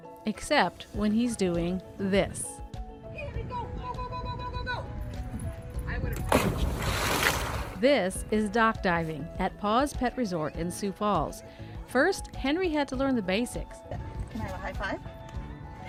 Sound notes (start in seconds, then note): 6.3 water splashes